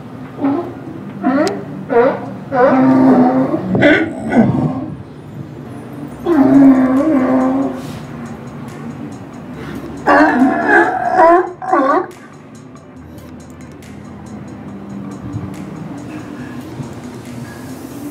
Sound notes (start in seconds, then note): 0.2 sea lions barking; 6.1 A sea lion barks in the distance; 10.0 barking in response